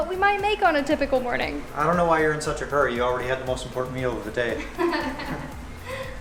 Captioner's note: laughter